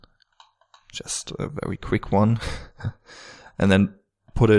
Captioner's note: laughing